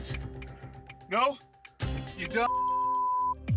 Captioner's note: beep